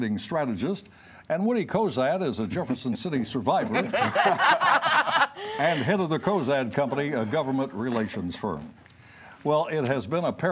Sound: laughter

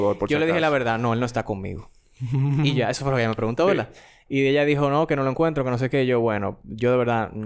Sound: laughs

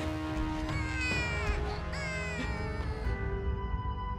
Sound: crying

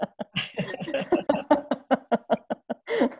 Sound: laughs

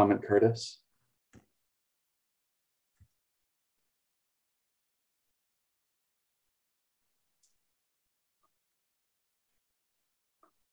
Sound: silence

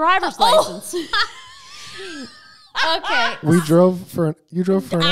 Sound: laughing

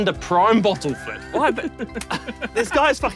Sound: laughs

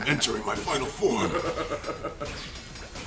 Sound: laugh

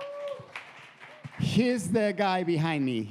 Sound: audience applauding

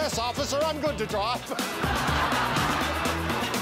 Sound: laughter

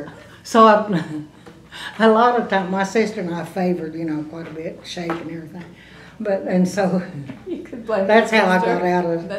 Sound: laughter

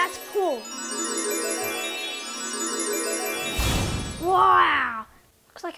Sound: tinkling bells chime

